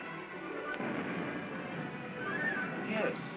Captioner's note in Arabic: انفجارات في المسافة